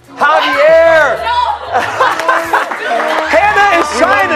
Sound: laughter

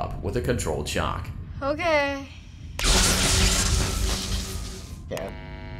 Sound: electricity buzzing and crackling

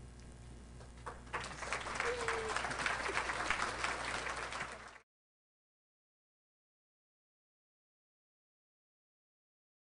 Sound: applause

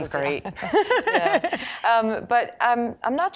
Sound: laughing

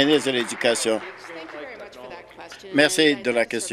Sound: applause

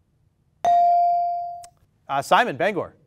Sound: ding

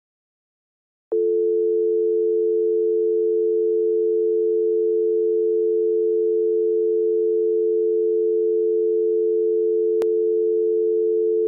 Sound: sound of telephone dial tone

